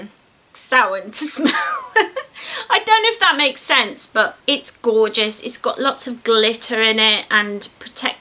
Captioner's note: laughs